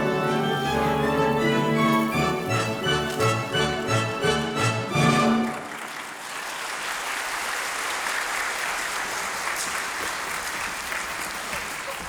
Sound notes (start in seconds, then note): 0.0 orchestral music; 5.3 audience applauding